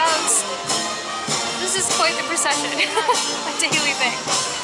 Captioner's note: laughter